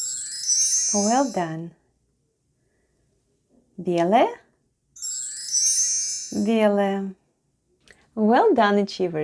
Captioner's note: chime sound